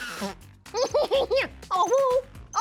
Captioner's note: laughs wickedly